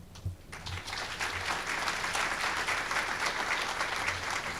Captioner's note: audience clapping